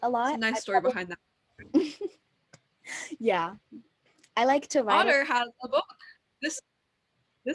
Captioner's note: chuckle